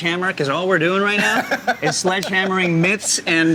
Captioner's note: laughs